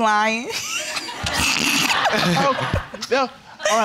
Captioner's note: all laughing